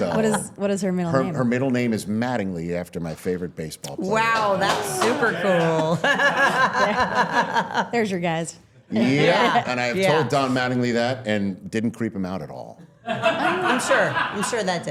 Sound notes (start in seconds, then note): 4.6 laughs; 12.8 all laughing